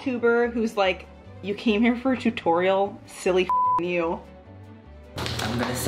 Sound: beep

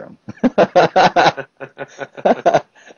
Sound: laugh

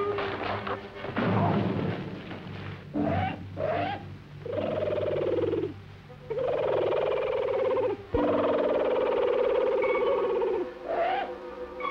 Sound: howling; bird screeching

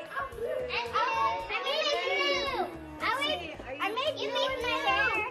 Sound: kids all talking at once

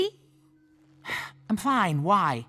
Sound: sighing

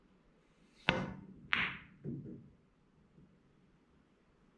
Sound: pool balls tapping

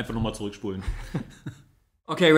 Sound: laughs

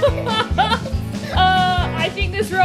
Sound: laughing

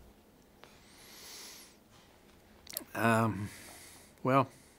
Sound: breathes deeply

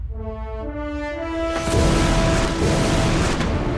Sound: whooshing sound

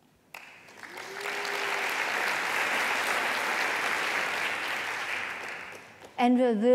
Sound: applause

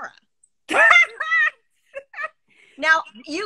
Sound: laughing

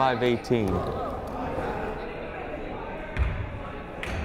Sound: crowd chattering

